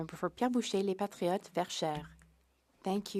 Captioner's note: speaking French